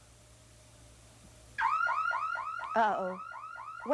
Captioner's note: alarm sounding